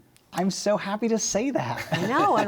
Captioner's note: laughter